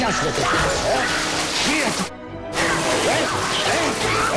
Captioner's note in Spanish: Estrépito